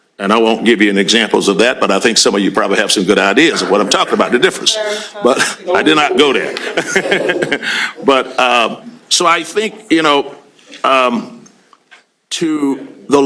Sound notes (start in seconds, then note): 6.1 chuckles; 6.3 laughter